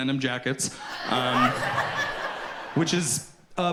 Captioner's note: audience laughs